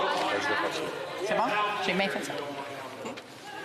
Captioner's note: mixed voices